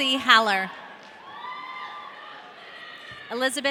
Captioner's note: audience cheering